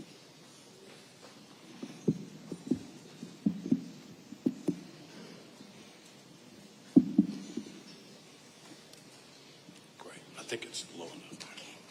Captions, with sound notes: (microphone creaking) Great. I think it's low enough. - Okay.